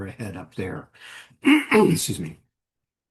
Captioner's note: clears throat